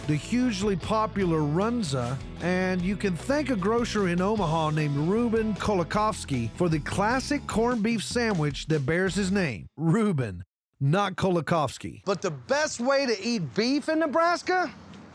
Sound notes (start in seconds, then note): none